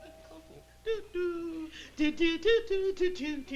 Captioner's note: humming